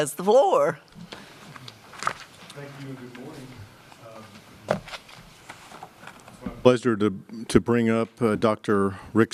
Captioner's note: away from microphone